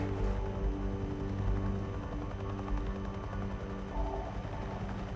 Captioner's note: helicopter whirring